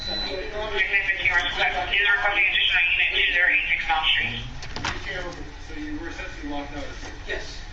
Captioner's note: radio traffic